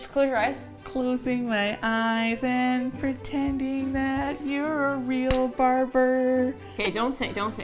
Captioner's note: singsong